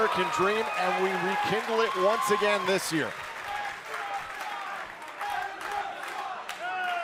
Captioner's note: crowd cheering